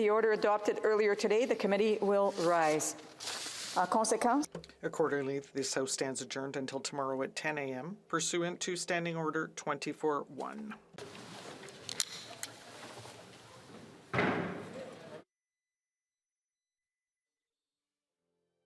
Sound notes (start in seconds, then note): 9.0 speaking French